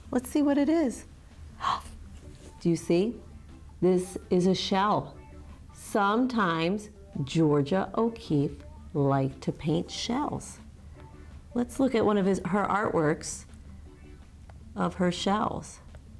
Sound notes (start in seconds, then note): 1.6 gasps